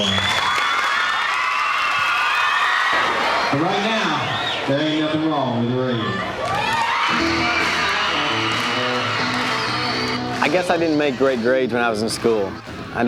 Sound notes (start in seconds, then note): 0.2 crowd cheers; 6.6 country music; 6.7 crowd cheers